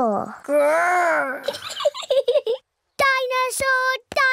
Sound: giggles

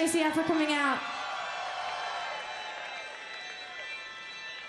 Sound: audience cheering

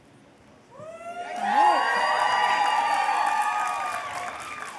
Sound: cheers

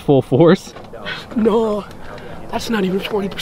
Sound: scoffs

